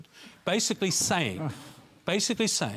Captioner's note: groaning